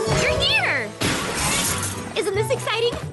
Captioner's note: poof